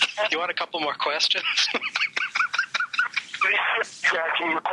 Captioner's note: laughs